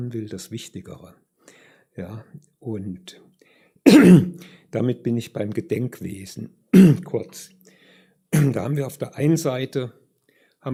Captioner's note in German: räuspern